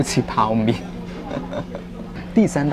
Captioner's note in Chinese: 笑聲